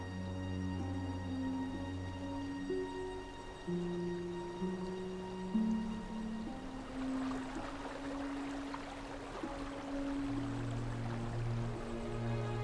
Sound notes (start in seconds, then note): 7.6 water streaming